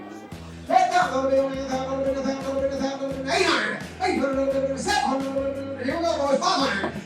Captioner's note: auctioneer mumbling out prices